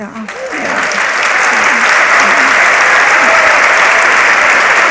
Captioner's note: audience cheering